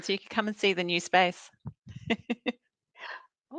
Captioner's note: laughs